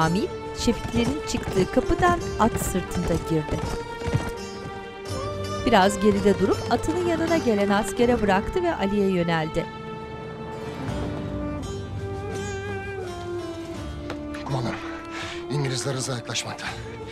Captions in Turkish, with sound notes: (At nalı sesi) Kumandanım, İngilizler hızla yaklaşmakta.